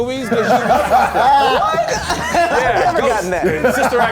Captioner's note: all laughing